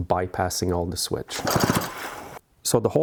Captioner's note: chainsaw whirring